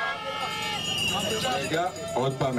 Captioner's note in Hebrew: קריאות הקהל